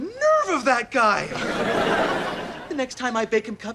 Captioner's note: audience laughter